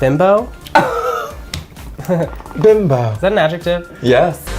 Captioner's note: laughs